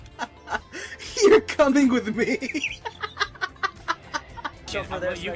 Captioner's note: erupts in laughter; continues laughter